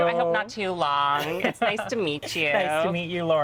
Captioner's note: laughing